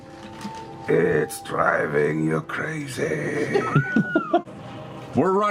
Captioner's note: weird low voice again